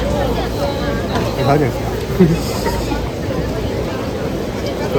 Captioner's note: laugh